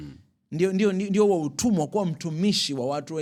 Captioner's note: snorts